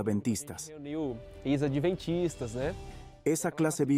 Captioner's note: Hablando idioma extranjero